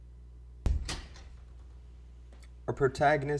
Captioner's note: door opens